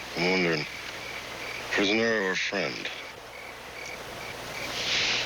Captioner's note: sighing